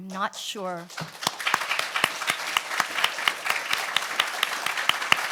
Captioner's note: audience applauds